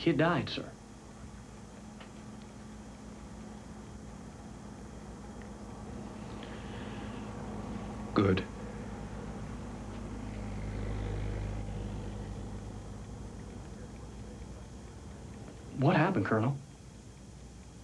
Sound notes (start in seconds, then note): none